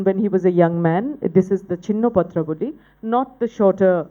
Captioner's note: non-english speech